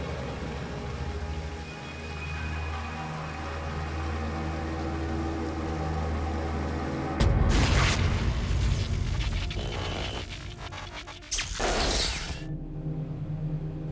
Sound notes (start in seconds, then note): 0.0 water rushing; 6.7 thuds; 10.5 buzzing and crackling